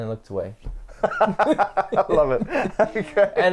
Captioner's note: both laughs